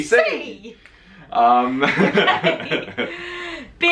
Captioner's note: laughing